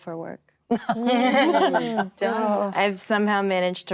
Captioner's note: actresses laughing